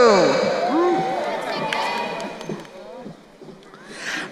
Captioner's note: crowd cheering